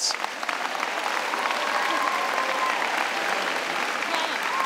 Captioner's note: cheers and applause